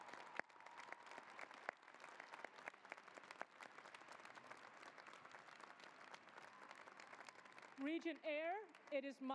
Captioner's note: cheering and applause